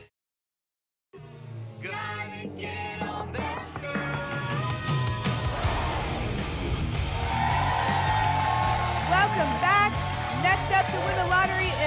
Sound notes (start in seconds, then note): 7.1 applause and cheering